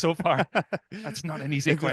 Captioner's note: laughs